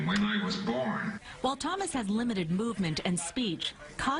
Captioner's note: voiceover